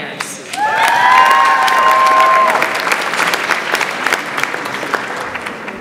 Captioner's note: audience applauds and cheers